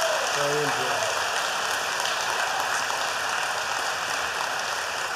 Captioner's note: applause